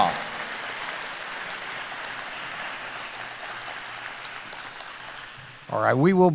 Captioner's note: applause